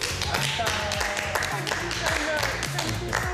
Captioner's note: applause